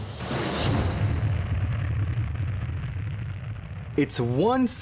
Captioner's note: explosion